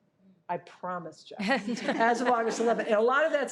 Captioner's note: participants laughing